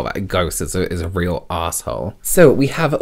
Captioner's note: none